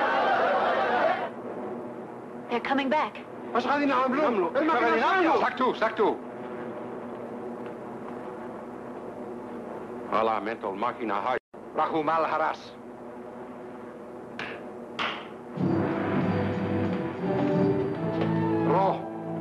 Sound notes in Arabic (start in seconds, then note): 0.0 حشد من الناس يصرخون; 10.7 الرجل يتكلم لغة أجنبية; 12.6 يتحدث لغة أجنبية; 15.3 يصفق; 15.5 موسيقى مشؤومة